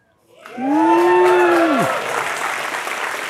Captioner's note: applause